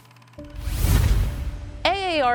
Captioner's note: logo whooshes